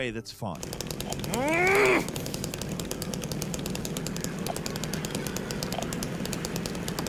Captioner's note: chainsaw buzzing; grunting